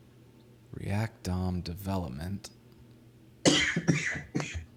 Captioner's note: coughing